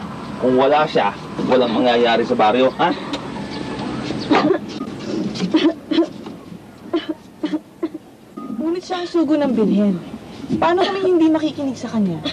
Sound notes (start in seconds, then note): 3.0 radio clicks off; 5.1 coughing continues